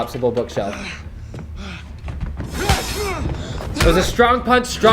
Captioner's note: men grunting